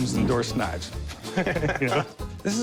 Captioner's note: laughing